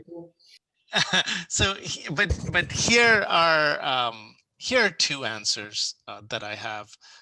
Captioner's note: chuckles